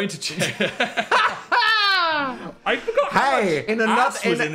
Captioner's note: hosts laugh